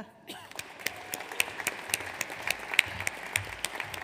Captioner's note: audience applauds